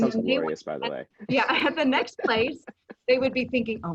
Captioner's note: laughing